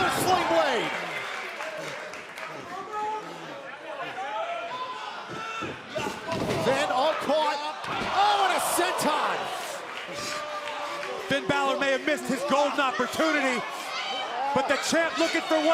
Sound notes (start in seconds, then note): 0.0 crowd cheering; 5.2 crowd chatter; 11.5 crowd cheering